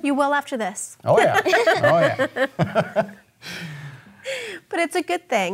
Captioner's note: chuckling